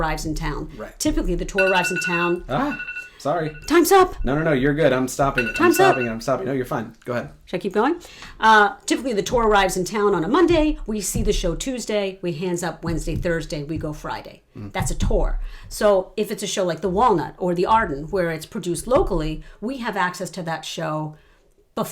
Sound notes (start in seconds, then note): 2.5 alarm goes off